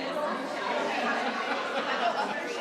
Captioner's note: attendee laughing